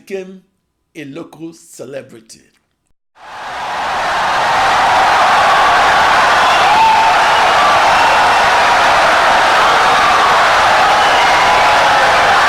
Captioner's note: wild applause and cheering for 17 seconds